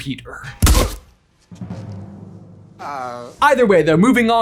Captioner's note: grunts